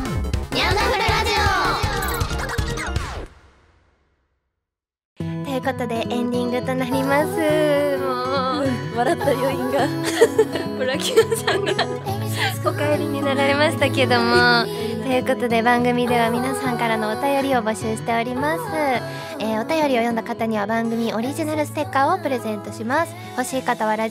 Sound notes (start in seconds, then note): 10.0 laughter